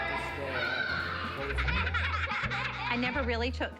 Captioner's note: laughter